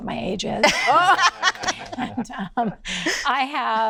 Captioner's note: all laughing